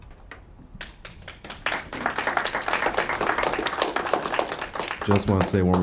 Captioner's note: audience applauding